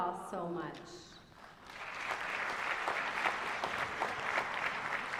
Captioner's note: applause